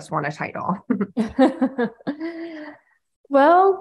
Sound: laughing

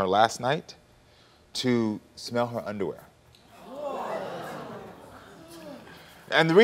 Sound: audience gasping

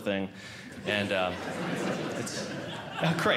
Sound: audience Laughing

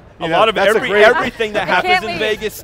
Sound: laughter

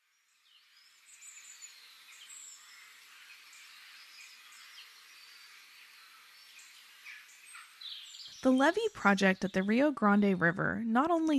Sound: birds Whistling

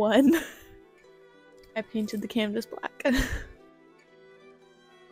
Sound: laughter; laughter

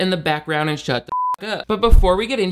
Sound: beep

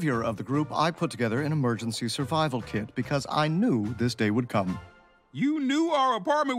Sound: none

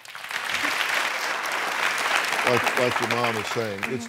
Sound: applause

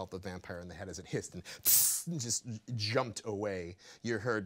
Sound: hissing

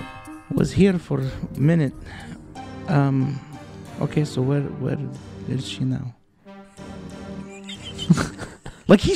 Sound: voice falling, very quiet

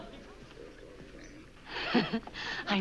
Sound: laughs

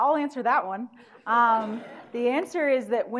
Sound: audience laughing

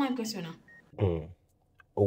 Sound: humms

